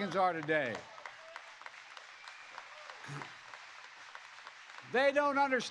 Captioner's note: applause